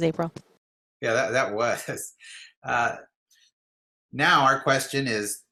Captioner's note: chuckles